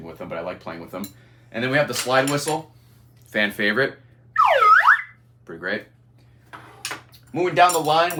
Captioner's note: slide whistles